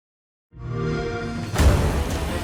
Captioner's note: xbox sound